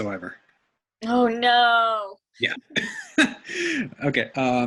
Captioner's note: laughs